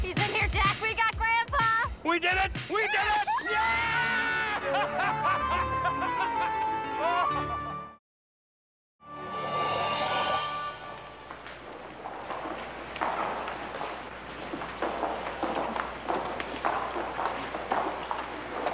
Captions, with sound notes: - He's in here, Jack. We got Grandpa. - We did it! We did it! Yeah! (bright music) (bright music) (footsteps clacking)